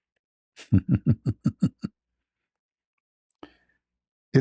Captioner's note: ketawa